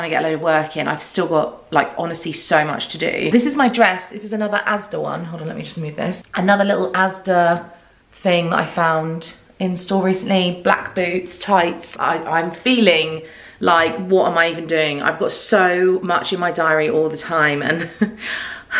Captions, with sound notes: to get a load of work in. I've still got like honestly so much to do. This is my dress. This is another Asda one. Hold on, let me just move this. Another little Asda thing that I found in store recently. Black boots, tights. I'm feeling like what am I even doing? I've got so much in my diary all the time (laughing).